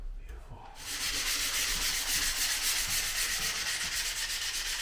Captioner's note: sand paper scraping